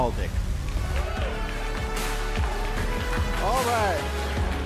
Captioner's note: applause